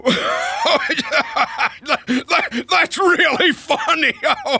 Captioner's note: laughing